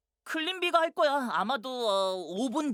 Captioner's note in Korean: none